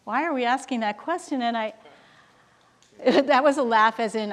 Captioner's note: male speaking faintly